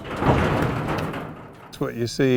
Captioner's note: metal clatters